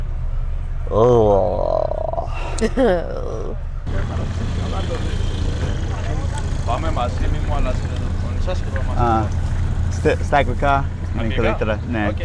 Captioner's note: laughter